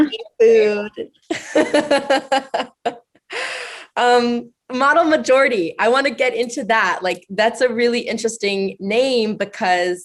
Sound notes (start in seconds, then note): 3.1 laughs